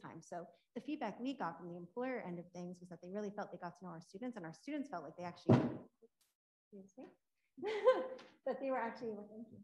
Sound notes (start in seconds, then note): 5.5 water bottle banging; 7.6 laughing